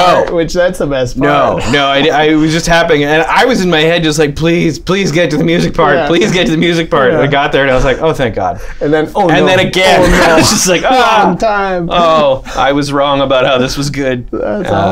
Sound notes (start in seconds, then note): 9.9 laughter